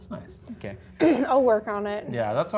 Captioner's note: clears throat